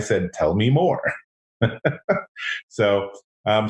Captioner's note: laughs